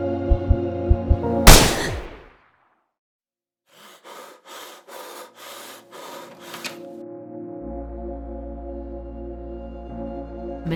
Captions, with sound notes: (gunshot) (heavy breathing) Before It's too late